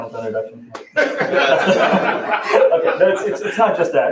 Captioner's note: laughter